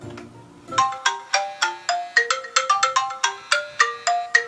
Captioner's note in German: wecker